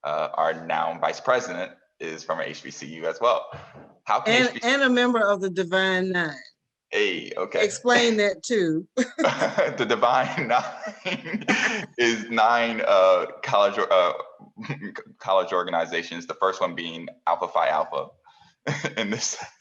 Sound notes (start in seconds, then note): 9.1 laugh